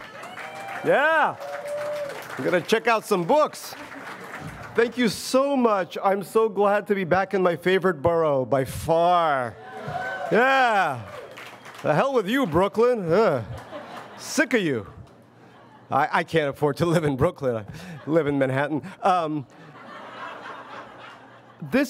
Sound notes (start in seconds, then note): 0.0 audience cheers and applauds; 9.5 audience cheers; 19.1 audience laughs